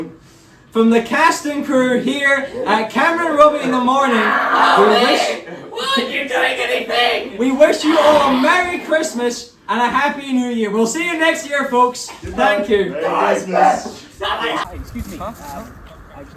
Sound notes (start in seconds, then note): 6.0 more dying noises